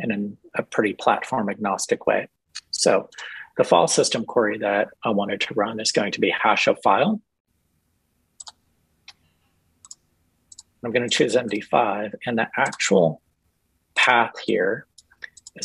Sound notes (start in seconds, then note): 8.4 mouse clicks